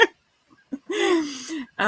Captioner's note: laughs